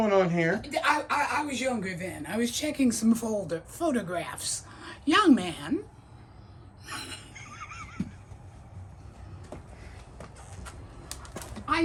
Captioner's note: both laughing